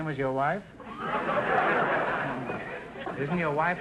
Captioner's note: audience laughter